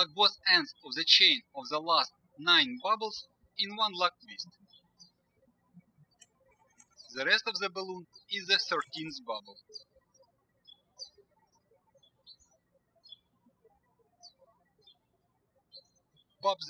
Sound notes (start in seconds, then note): 6.3 birds chirping; 11.9 birds chirping